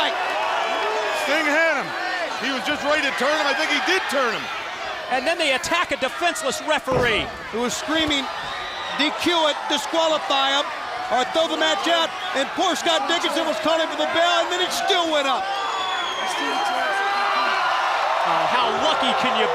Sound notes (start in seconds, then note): 16.1 crowd chatter